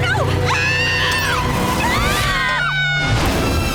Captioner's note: screaming